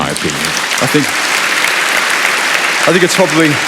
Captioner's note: applause